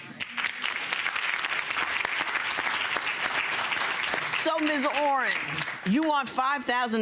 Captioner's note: audience applauds